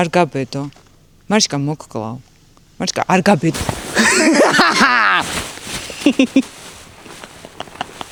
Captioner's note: is giggling satisfied